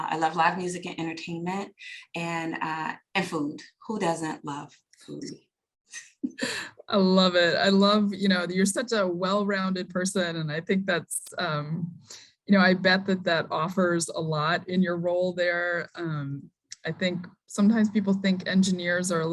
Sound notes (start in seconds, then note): 6.1 chuckles